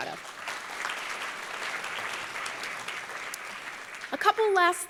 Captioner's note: applause